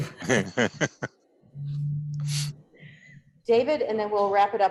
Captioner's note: chuckles